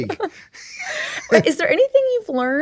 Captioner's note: laughs